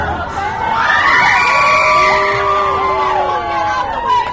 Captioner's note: audience screams, cheers, boos